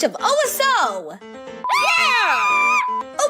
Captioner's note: cheering